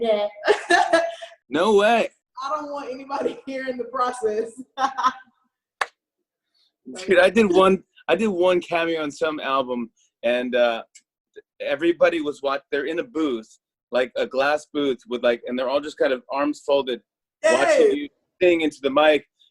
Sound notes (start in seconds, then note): 0.2 laughs; 4.5 laughs